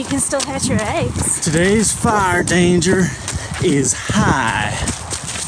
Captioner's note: in a country accent; footsteps on gravel path; laughs